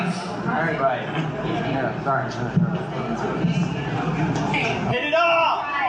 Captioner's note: awkward crowd chatter